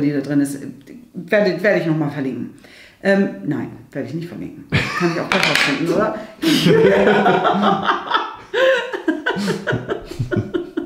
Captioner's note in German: lacht